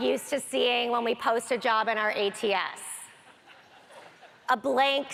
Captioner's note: audience laughter